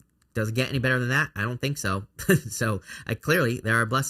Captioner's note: chuckles